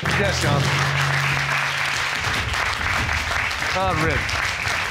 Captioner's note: audience clapping